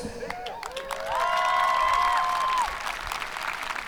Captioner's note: audience cheering